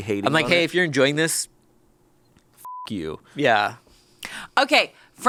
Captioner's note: beep